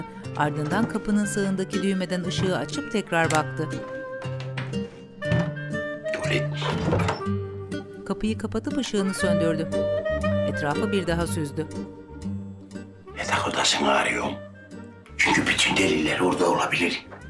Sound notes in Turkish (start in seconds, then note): 0.0 Müzik - Hareketli; 3.0 Elektrik anahtarı sesi; 6.4 Kapı kapanma sesi; 8.6 Elektrik anahtarı sesi